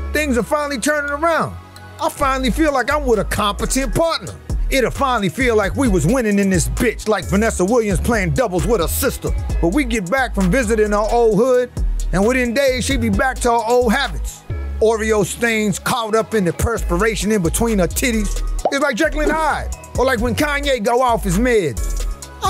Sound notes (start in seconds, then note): 18.6 picture pops